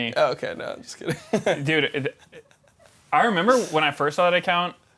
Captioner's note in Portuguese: risos